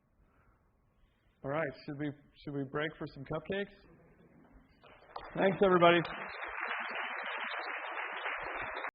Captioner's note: applause